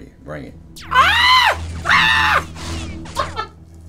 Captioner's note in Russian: кричит; смеётся